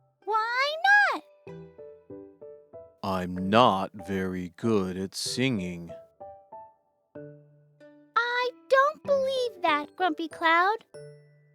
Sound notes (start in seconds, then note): none